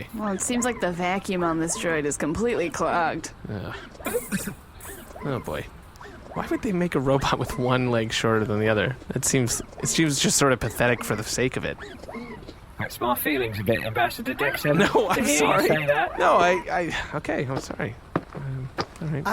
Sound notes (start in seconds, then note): 3.5 C-53 coughs